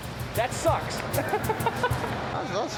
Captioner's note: laughs